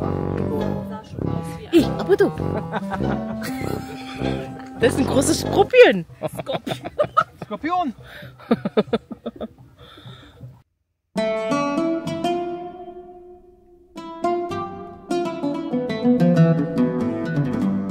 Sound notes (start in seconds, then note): 1.1 laugh; 4.7 speaking German; 7.0 laugh